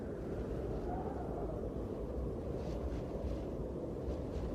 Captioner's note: wind howling